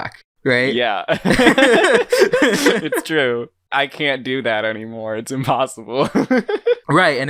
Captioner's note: both laugh; laughs